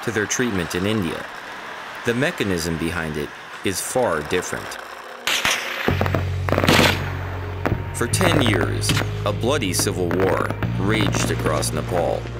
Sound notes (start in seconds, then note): 5.2 guns fire